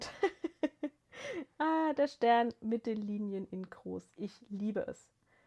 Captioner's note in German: gelächter